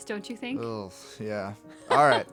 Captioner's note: laugh